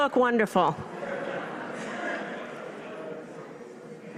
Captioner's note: laughter